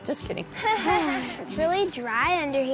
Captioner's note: laugh